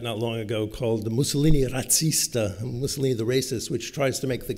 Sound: italian

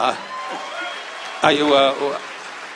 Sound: audience cheers

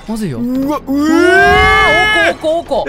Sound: guest growls, crash of dishes; both yell in terror

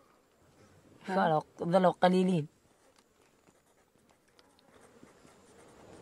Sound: group speaking in foreign language continues

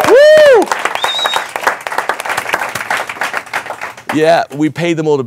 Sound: audience cheering and clapping

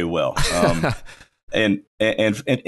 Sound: laughs

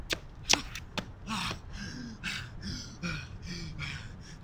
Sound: heavy breathing

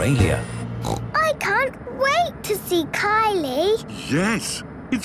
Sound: snorting

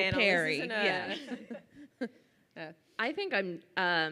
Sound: laughs

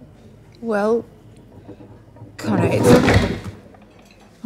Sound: chair moving

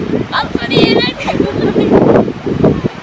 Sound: laughs

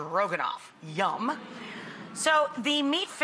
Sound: audience hums

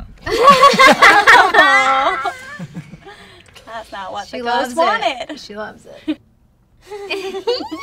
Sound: laughter

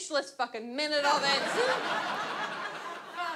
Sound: audience laughs

